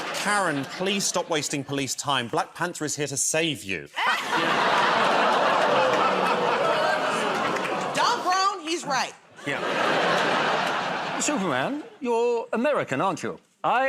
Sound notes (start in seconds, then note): 0.0 laughter; 3.9 laughter; 4.2 audience gasps, groans; 9.3 laughter